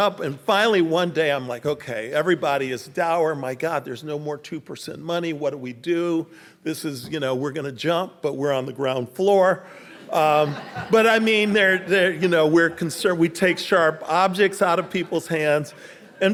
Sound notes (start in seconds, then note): 9.9 audience laughing